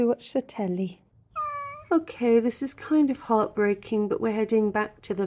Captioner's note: meow